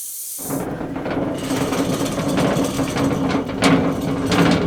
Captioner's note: saw rumbles